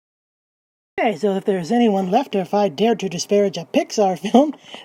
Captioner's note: laugh